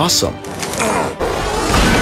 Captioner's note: grunts